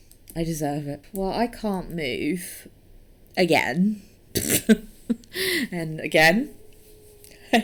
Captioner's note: laughs